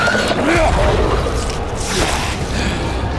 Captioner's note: screeching